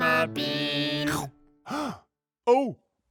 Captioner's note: Rainbow gasps